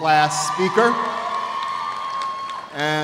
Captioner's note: cheers and applause